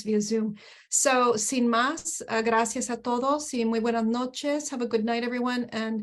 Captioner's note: speaking spanish